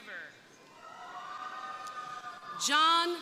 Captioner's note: crowd cheering